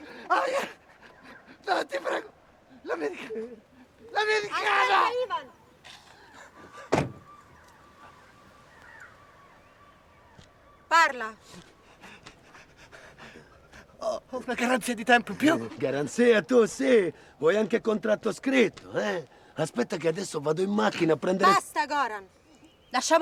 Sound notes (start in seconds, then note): 6.8 car door closes; 11.5 breathes heavily